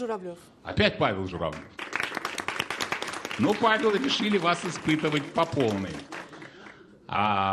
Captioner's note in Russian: аплодисменты